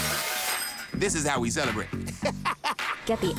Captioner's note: whistling; laughs